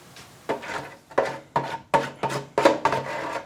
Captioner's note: scratching sound